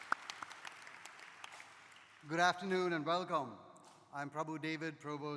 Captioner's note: applause